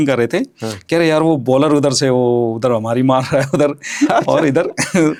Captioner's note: nasal voice